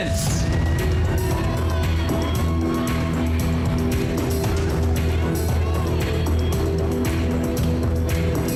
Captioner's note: audience cheering; suspenseful music playing